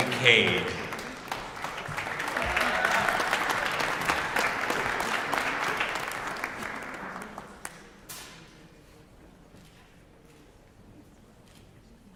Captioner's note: applause